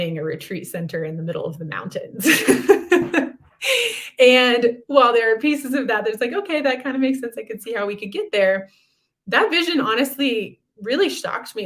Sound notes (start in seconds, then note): 2.2 laughter